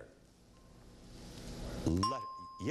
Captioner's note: ding